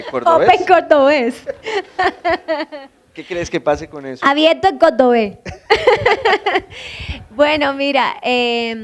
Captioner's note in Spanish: con acento